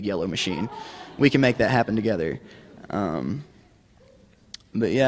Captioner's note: laughter